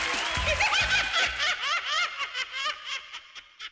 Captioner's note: laughing